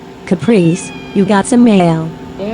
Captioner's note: Caprice meows at Ava and Breeanna